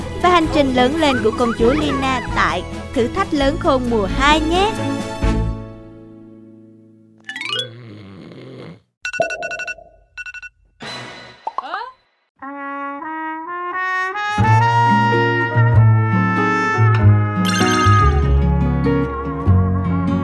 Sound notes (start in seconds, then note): 7.6 someone is snoring